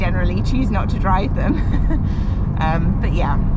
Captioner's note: laughs